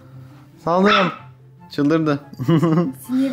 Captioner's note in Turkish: havlama sesleri